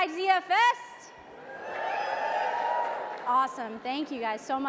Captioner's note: audience applauds and cheers